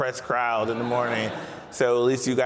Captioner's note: audience laughs